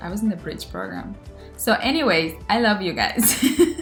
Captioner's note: chuckles